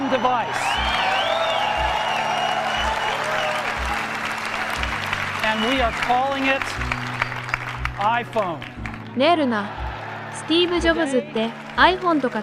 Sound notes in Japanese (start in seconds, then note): 2.5 大歓声; 2.5 拍手; 7.1 拍手